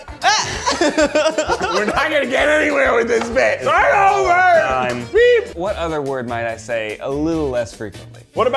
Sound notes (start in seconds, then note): 0.2 laughing